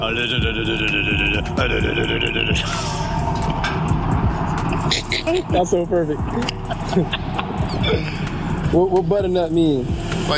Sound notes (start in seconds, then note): 2.6 laughing; 6.8 laughing